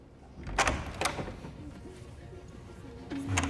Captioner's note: door clacks